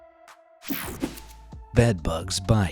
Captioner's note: air whooshing